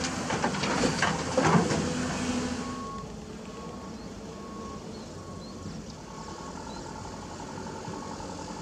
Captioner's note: engine Rev